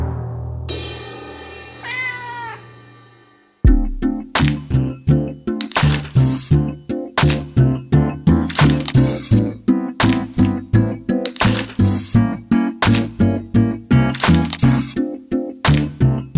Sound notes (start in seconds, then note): 0.1 symbols crash; 1.8 cat meows; 3.6 upbeat music